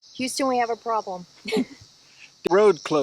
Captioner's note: chuckling